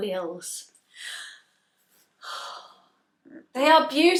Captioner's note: content sigh